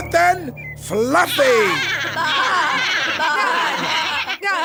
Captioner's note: baaing